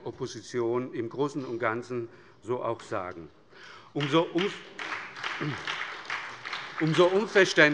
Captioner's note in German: Beifall bei der SPD sowie bei Abgeordneten des BÜNDNISSES 90/DIE GRÜNEN